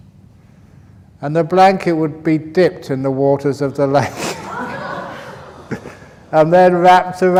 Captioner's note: laughter